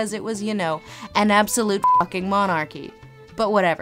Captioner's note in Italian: beep